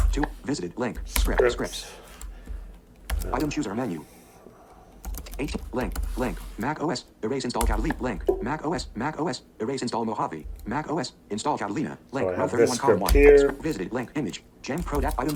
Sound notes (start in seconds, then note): 2.4 computer voiceover